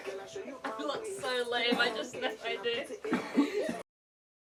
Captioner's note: laughing